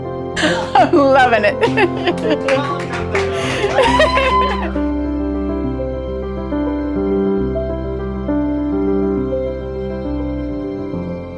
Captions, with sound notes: (laughs) I'm loving it! (audience cheers and applauds) (gentle inspirational music continues)